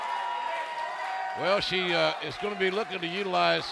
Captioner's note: cheers and applause